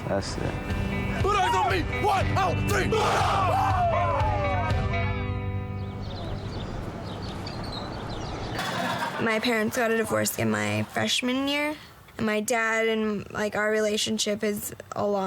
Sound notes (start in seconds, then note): 3.6 shouting